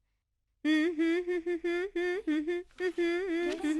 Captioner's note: humming